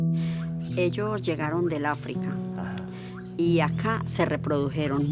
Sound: speaking in foreign language

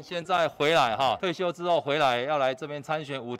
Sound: Mandarin

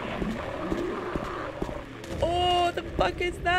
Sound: growling noises and radio static

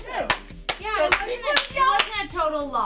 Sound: clapping

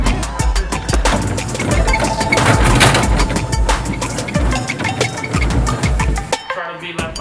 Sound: rolling carts; suitcase slamming

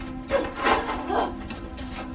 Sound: door opening; struggling to breathe while crying

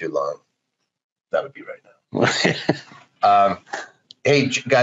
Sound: laughs

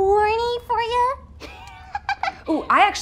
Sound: chuckling

